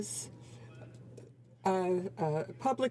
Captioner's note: speaking French